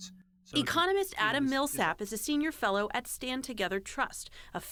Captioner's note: voice-over